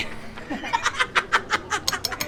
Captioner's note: laughs